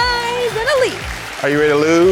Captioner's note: audience clapping